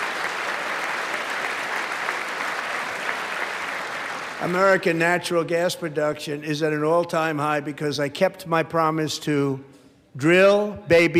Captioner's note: applause